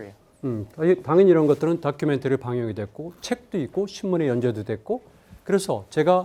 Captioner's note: speaking in Korean